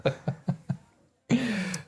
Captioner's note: laughing